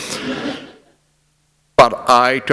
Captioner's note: laughter